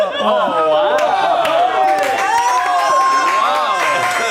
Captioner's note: everyone exclaims